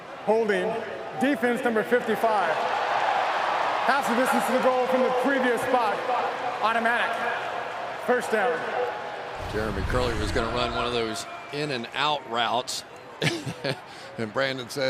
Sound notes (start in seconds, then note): 3.0 crowd cheering